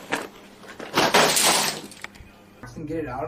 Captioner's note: sounds of improper disposal